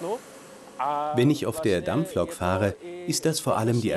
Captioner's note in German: tschechisch